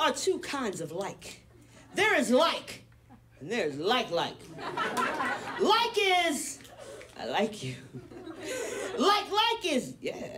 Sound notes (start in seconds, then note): 4.5 audience laughs; 9.0 chuckles